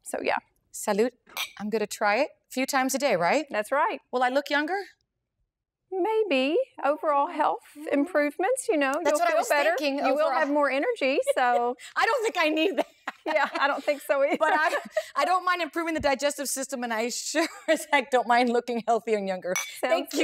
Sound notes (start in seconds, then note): 11.0 laughs